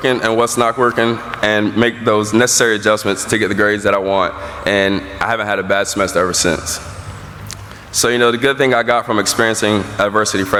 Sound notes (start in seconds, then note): none